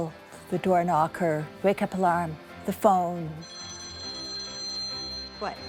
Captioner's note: phone ringing